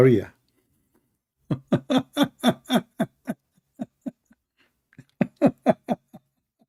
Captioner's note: Ketawa